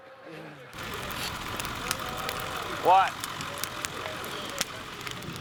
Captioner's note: fire crackling